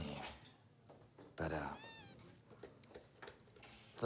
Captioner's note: toy squeaks